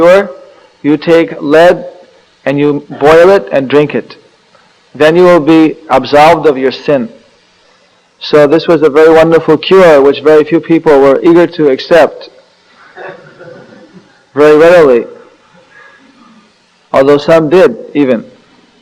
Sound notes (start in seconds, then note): 12.8 laughter